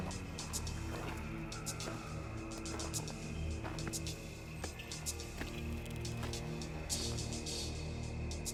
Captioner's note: footsteps